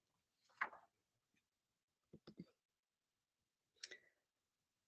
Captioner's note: paper rustles